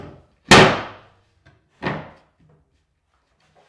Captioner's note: wood thudding